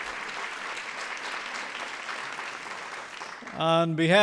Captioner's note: applause